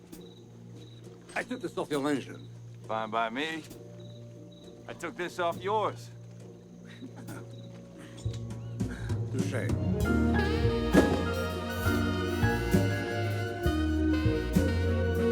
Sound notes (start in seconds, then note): 6.8 laughs